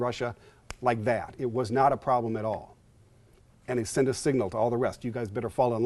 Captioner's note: snaps